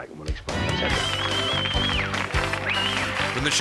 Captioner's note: audience cheering